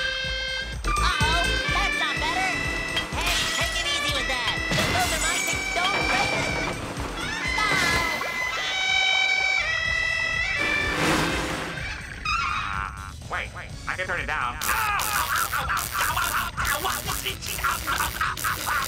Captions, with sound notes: Uh-oh, that's not better. Hey, take it easy with that. Those are my things. Don't break them! [clarinet playing] Uh wait, I can turn it down-- [screaming]